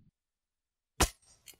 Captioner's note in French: Bruit du coup d'épée